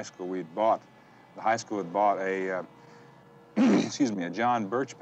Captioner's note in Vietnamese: Hắng giọng